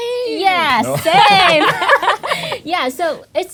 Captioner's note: laughing